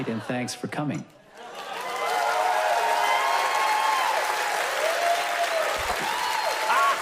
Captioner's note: loud applause